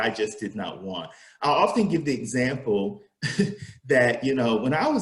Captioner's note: laughs